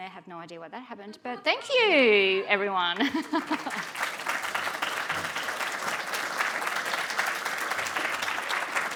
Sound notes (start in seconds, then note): 3.0 audience applauding